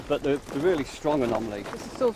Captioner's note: group footsteps crunch